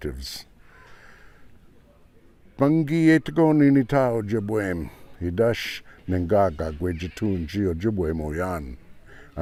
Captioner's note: speaking ojibwe